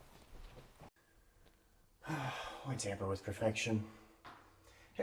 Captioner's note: sighs